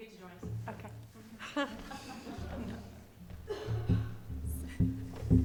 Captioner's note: everyone chuckles